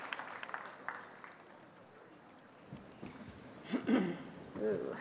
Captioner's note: applause